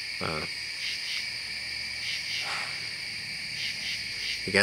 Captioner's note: insects and frogs calling